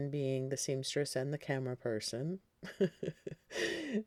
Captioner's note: chuckling